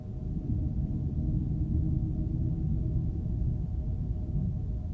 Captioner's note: atmosphere rumbling